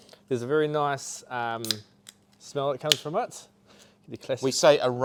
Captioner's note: tab popping